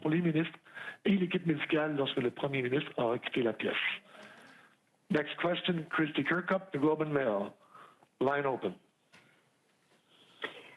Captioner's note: speaking French